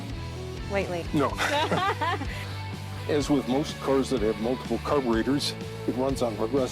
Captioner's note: laughs